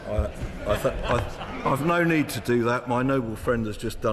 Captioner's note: members laugh